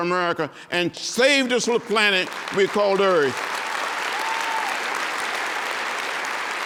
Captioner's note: applause and cheering